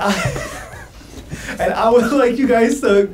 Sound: laughs

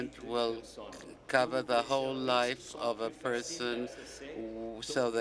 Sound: speaking French

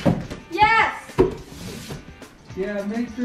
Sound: tape ripping; slapping box

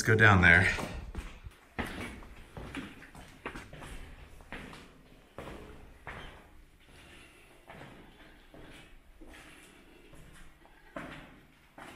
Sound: slow footsteps

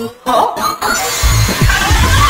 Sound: demonic screaming; do screaming

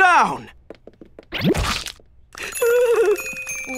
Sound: frightened shivering and shaking

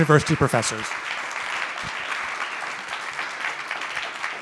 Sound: audience clapping

